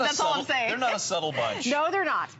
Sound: laughter

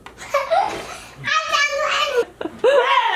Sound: laughs

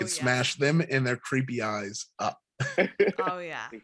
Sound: Chukwudi giggling

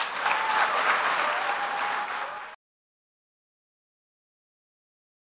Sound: applause

